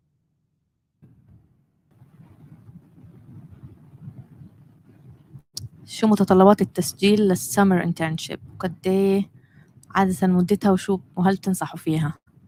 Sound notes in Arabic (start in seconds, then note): 7.5 لغة أجنبية